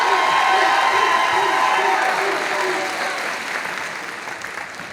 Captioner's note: audience applauding